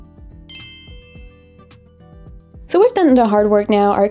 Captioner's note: soft music; bells chiming